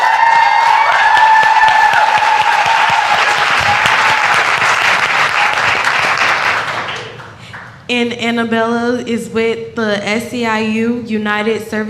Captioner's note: cheers and applause